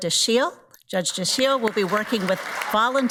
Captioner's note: audience applauds